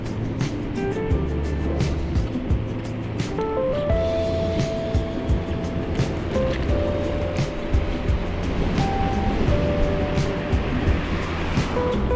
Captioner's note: wind Blowing